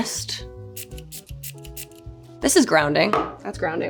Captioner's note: bottle spraying